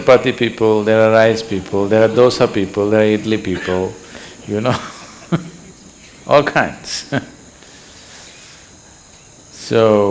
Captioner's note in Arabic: يضحك